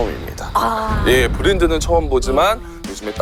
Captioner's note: A deep sigh from the soul…